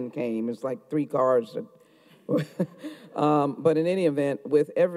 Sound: chuckles

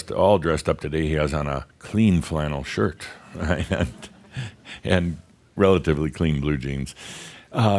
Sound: Adamus chuckles

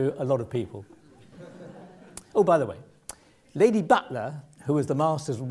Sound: laugh

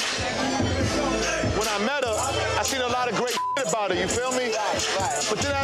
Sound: beep

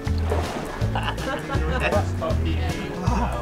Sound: man laughs

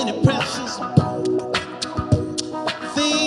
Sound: mouth percussion

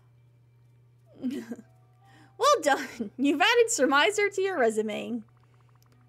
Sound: laughs

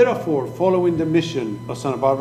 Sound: speaking foreign language

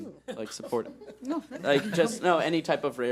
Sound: laughing

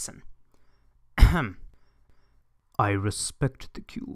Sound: ahem

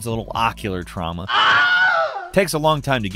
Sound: person screams

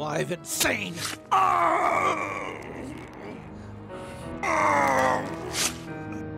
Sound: fleshy thunk; groaning

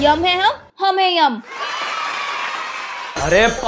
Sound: shouting

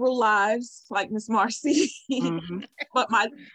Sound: laughs

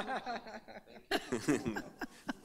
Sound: laughing

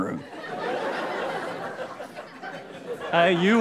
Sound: audience laughing

